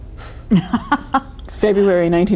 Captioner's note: laughing